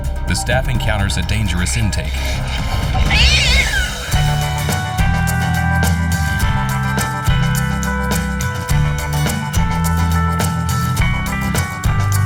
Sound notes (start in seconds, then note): 3.0 cat yowling; 4.2 happy music